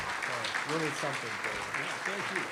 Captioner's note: applause